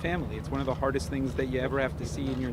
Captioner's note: gunshots